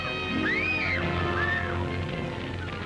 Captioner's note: child screaming; fire crackling